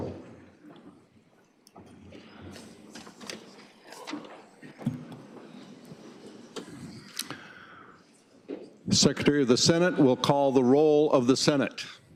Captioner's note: gavel banging